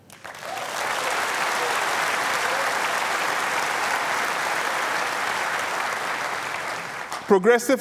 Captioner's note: applause